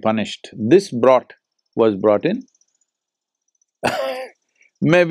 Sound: laughs

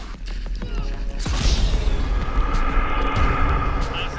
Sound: yells

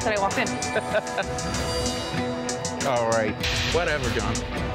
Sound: laughs

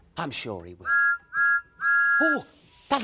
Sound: thomas whistles

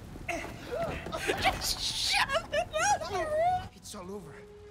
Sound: laughing

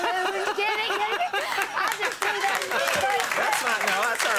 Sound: audience laughing

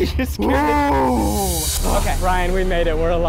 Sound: exhales

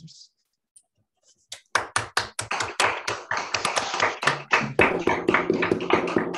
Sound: applause

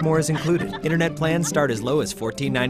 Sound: laughing

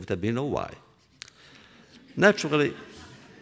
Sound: laughter

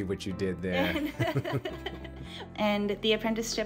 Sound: laughing

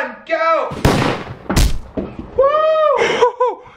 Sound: thud

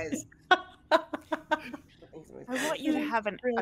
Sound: laughter

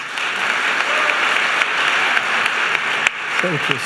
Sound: applause

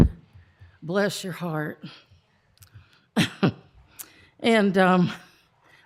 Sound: chuckle

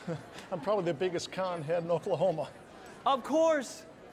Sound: chuckles

